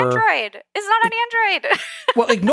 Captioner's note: laugh